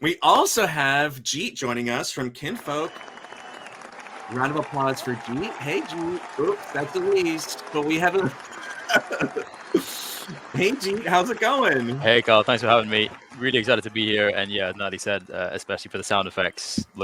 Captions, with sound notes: We also have Jeet joining us from Kinfolk. (audience applauding) Round of applause for Jeet. Hey Jeet. Oops, that's the least. But we have a, (laughs). Hey Jeet, how's it going? - Hey Kyle, thanks for having me. Really excited to be here. And yeah, Natalie said especially for the sound effects,